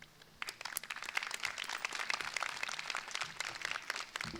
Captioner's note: crowd applauding